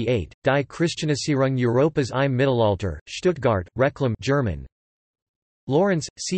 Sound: German

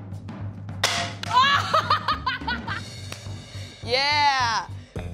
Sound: laughs

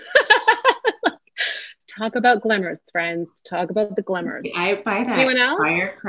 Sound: laughter

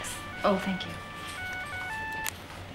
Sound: cellphone rings

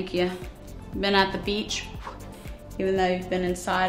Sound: blows air

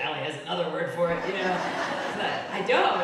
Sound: audience laughing

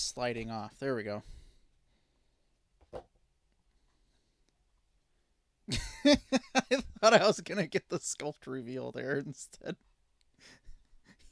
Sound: laughing

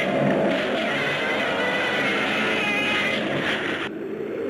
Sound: Gammera roars; wind whooshing

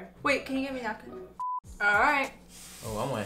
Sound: electronic beep

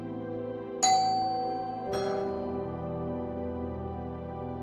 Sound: doorbell

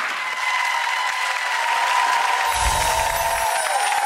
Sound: applause

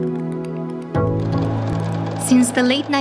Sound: sound of projector

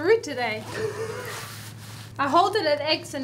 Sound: laughing

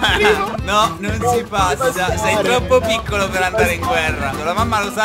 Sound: mocking

